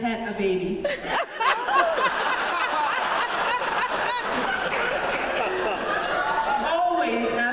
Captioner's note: laughter